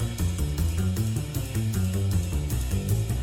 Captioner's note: none